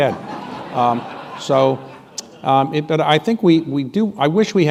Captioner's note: laughter